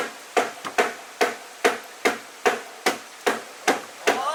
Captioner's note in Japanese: 掛矢を叩く音